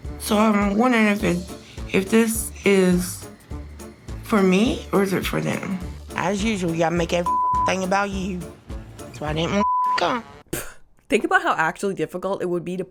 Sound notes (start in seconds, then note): 7.2 beeps; 9.6 beep